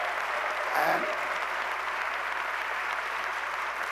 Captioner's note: applause